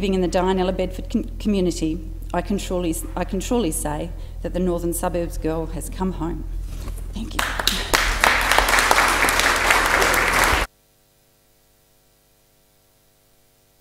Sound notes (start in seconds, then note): 10.4 applause